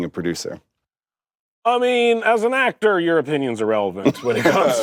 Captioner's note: laughs